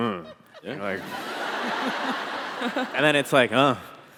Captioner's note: audience Laughing